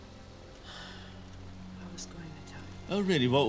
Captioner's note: sighs